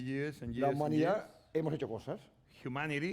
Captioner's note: speaking spanish